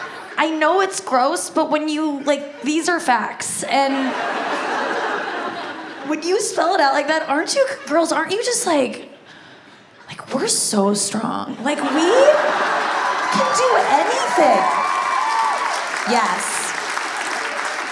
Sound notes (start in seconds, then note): 3.9 audience laughs; 14.5 audience cheers and claps